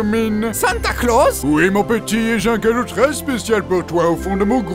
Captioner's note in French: Voix de Titan